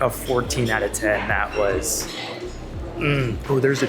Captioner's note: joyfully murmuring